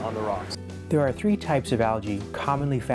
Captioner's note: voiceover